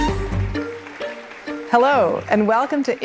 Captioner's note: audience applauding